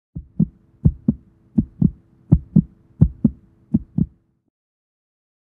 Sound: heart beating

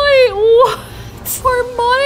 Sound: laughs

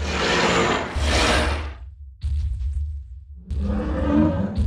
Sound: ferocious roaring

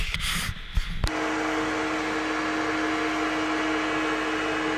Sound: loud machinery whirr in background

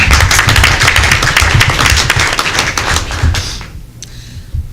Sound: applause

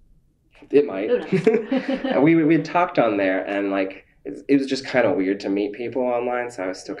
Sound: laughter

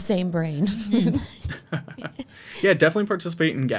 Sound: all laughing

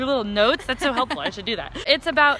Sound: laughs

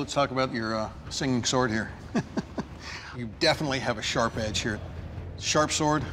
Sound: laughs

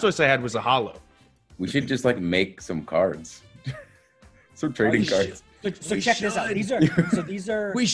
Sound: laugh

